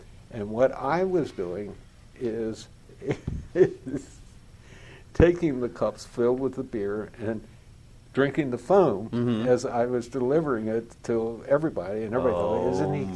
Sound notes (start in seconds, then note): 3.0 laughter